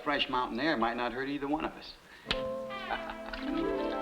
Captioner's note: laughs; dramatic music